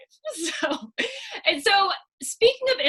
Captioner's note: laughs